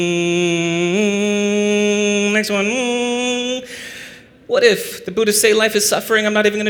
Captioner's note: hum